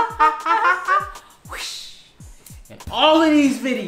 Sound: whish

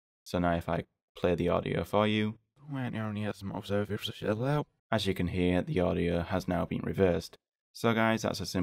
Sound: reversed audio playing

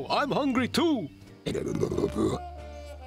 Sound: grumbling

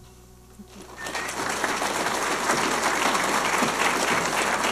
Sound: audience applauding

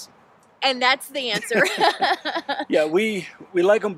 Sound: both laugh

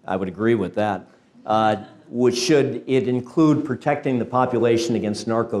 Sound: laugh

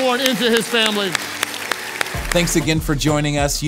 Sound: congregation applauds

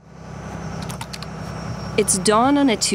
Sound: engine humming

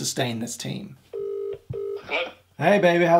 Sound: dialing tone rings

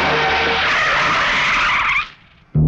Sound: brakes squeal

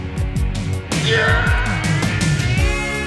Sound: loud Fading Screech

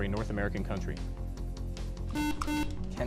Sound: buzzer

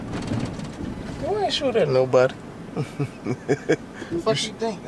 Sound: laughing

